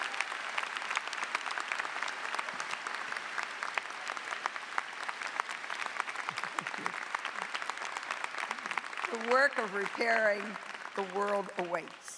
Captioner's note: applause